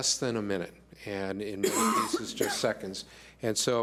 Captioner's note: coughing drowns out speaker